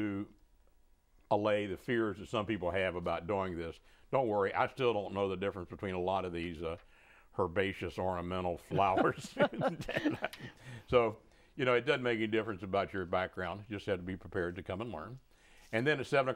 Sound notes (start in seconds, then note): 8.7 laughing